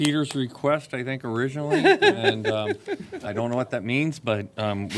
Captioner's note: laughter